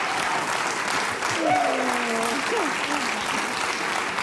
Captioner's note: audience laughing, applauding; laughs